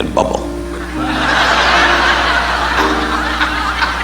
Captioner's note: audience laughing